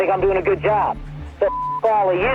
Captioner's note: beep; tense music